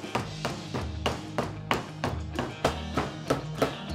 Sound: rolling pin thumping

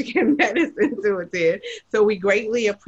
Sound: laughs

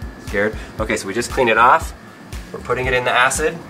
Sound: voiceover

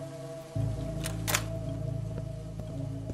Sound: door opens

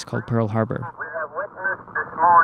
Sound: soundbite of archived recording

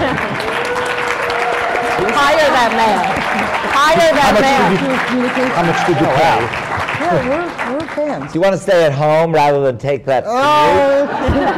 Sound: laughter

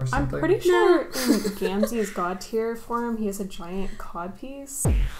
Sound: laughs

